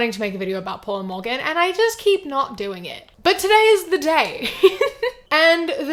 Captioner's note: laughs